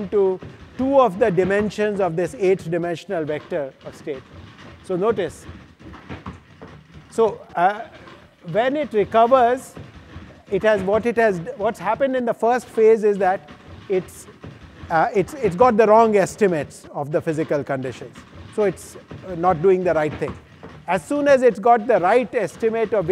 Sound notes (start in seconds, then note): 5.8 feet clatter